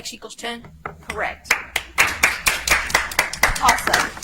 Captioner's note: audience applauds